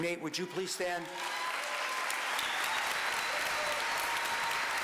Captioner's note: applause